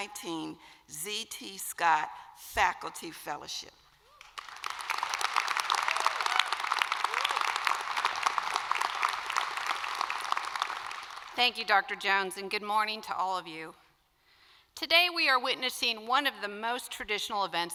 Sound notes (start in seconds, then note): 8.9 applause